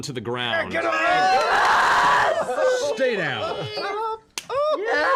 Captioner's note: cheering